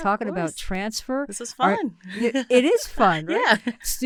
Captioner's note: laughs